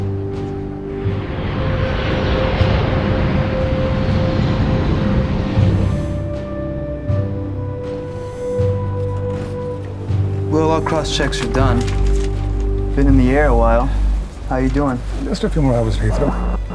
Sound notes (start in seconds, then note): 7.8 slurp